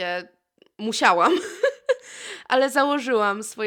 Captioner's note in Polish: śmiech